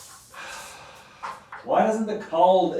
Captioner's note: Ron sighs